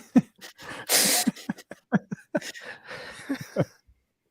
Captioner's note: both laughing